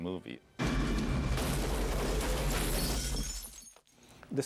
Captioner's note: glass breaking